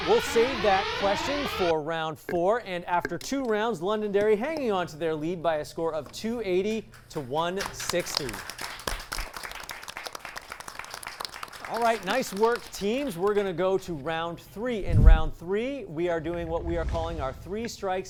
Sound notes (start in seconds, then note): 7.5 applause